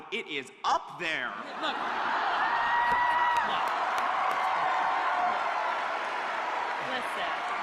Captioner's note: laughter, cheers and applause